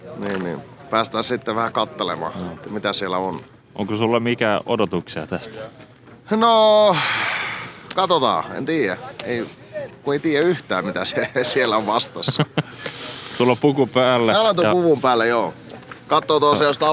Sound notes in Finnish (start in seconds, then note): 6.8 huokaisee; 12.0 naurahtaa